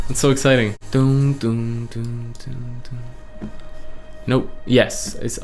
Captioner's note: imitates instrumentals